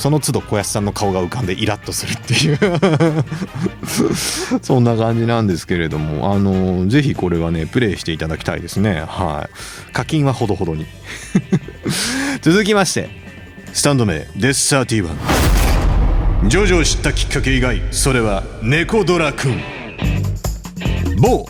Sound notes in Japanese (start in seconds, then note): 2.4 笑い; 11.1 笑い